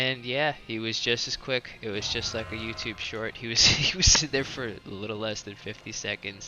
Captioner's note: laughs